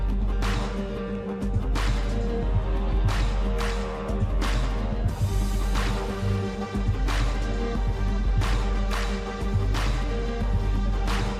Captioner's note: applause